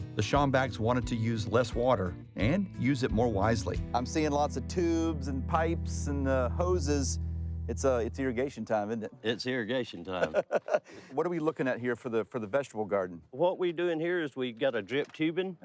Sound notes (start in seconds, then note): 10.1 laughing